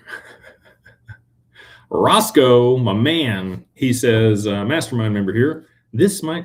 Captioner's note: laughter